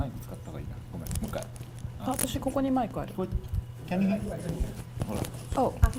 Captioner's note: speaking foreign language